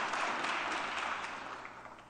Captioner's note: applause